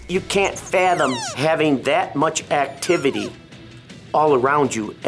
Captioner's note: decoy squeaks